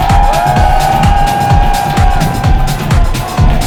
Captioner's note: loud cheering